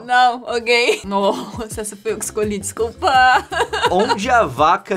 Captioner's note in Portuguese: risada; risada